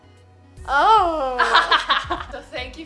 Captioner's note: laughing